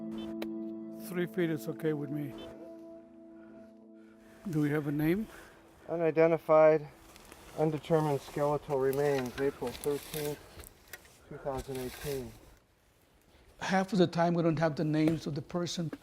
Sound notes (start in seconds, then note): 2.8 GPS device beeping